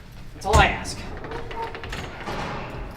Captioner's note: door opens